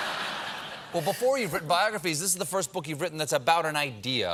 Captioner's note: laughter